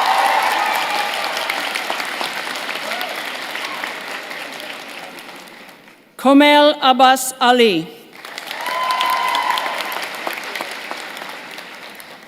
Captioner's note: cheers and applause